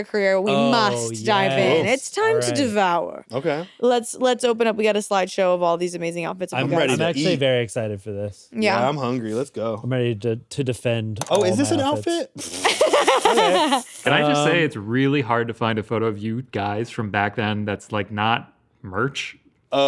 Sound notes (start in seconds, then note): 12.4 snickers; 12.4 laughs